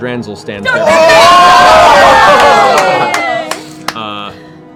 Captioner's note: cheering